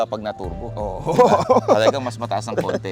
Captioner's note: laughs